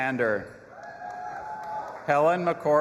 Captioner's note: audience applauding and cheering